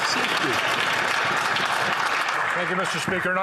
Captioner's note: some Applause